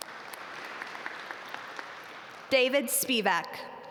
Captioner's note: audience applaud